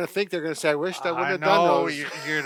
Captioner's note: laughs